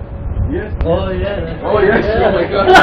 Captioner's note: Gülüyorlar; Gülüyor